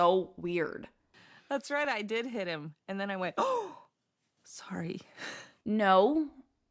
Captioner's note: gasp